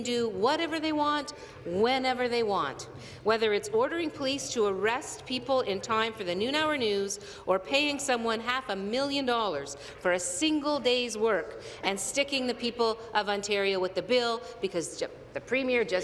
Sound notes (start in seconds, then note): none